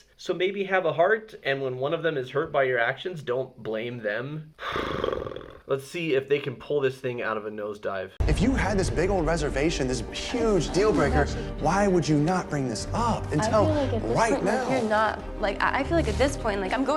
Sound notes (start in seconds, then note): 4.6 lips trilling